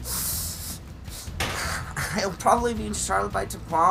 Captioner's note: fist slams on table